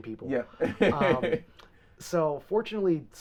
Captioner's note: laughing